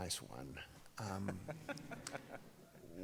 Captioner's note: Browne laughs